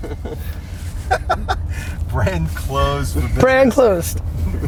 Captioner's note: laughs; laughing